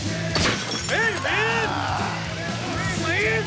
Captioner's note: bottle breaking